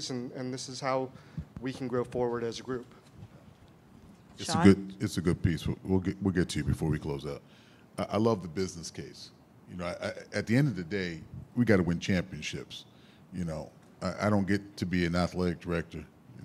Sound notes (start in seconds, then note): none